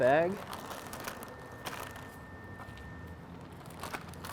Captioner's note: crinkling